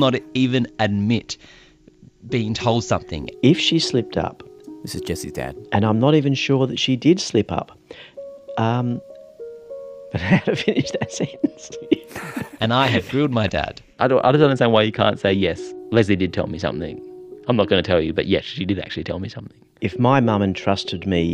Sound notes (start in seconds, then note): 10.2 laughs